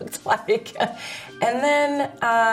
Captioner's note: laughs